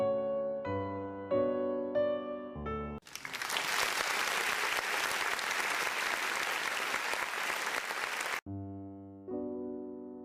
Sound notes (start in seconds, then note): 3.0 applause